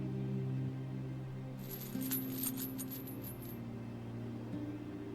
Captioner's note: chain rattling; gentle orchestral music